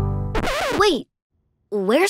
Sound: record scratch

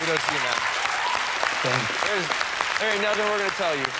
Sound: cheers and applause

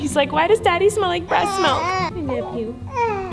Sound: baby cries; baby crying

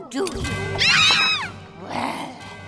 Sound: screaming

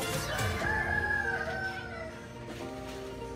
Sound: rooster crows

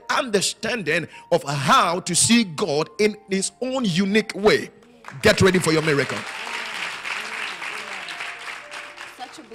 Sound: applause

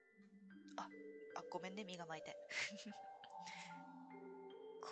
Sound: laughs

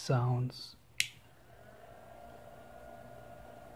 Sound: click; waterpump buzzes

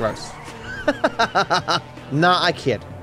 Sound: laughs

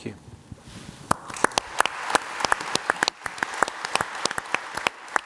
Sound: audience applauds

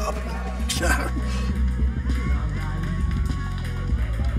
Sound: Yogi scoffs

